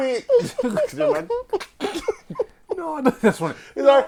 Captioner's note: laughter